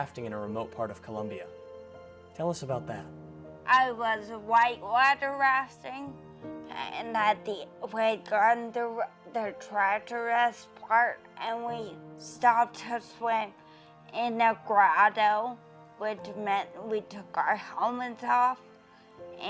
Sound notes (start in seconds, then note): 13.2 foreign language